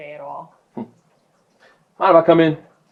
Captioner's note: chuckles